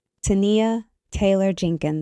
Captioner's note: none